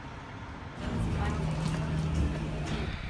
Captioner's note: people talking faintly in background